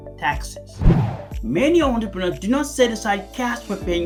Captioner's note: air swooshing